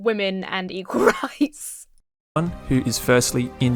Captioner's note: laughs